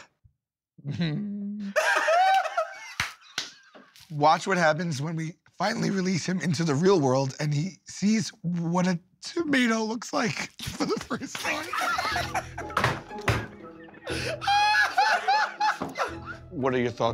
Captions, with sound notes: Mm... [ Laughter ] "Watch what happens when we finally release him into the real world, [voice breaking] and he sees what a tomato looks like for the first time." [ Laughter ] What are your thoughts on it?